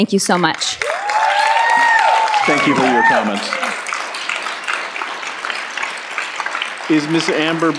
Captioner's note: cheers and Applause